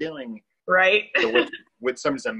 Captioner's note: laughs